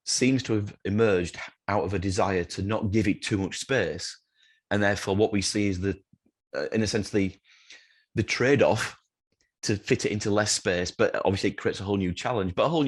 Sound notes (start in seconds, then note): none